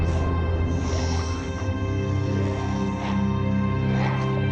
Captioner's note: dramatic music; snakes hissing